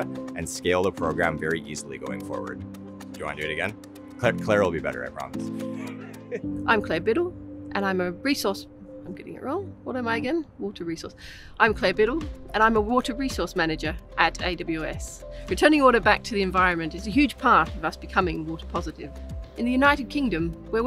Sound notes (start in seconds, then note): 5.6 laughs